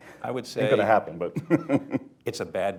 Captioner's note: laughs